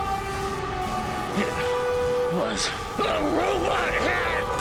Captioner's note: Jacob, weakly